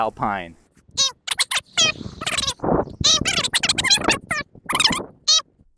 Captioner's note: comical fast forward talking